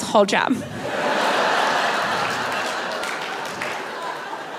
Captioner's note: audience laughing